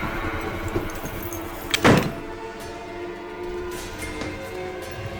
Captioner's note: door slamming; dramatic music